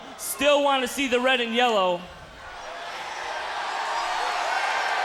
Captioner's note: crowd cheering